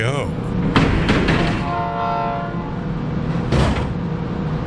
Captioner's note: train horn